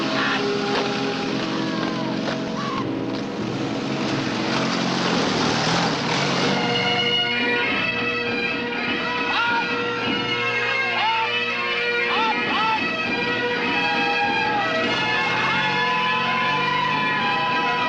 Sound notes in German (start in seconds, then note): 7.5 bagpipes playing; 7.5 shouting